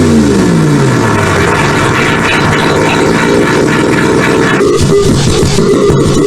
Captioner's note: loud startup